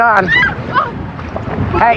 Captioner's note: scrcreamimingng